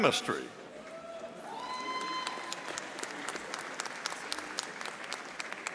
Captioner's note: audience applauding